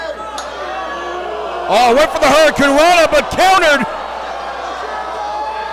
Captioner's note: applause